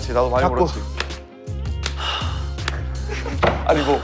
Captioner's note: slap